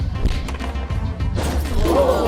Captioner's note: skateboard thudding; fist whacking; tray banging